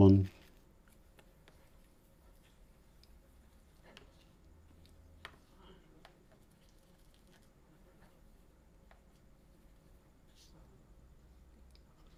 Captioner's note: silence